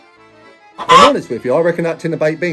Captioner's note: traditional Italian music; chicken clucking